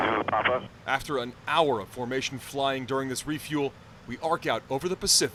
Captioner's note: voice-over